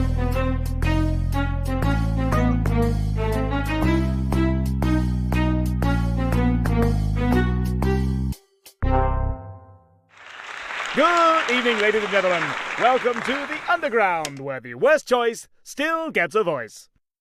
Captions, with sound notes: [applause] Good evening ladies and gentlemen! Welcome to The Underground where the worst choice still gets a voice